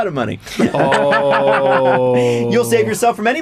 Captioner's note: laughter and sad 'oh'